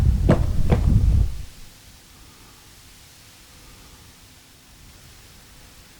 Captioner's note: footsteps